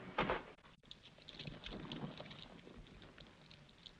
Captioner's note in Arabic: طقطقة النار